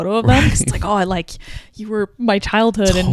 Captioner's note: chuckles